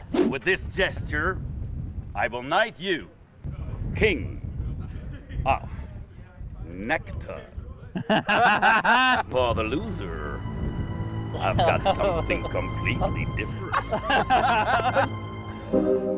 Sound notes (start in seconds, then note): 7.9 all laugh; 13.8 both laugh